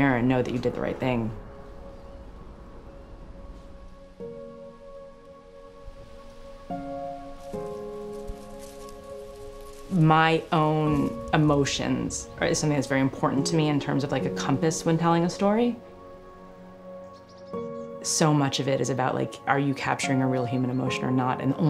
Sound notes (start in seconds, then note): 4.5 soft piano music; 8.1 leaves rustling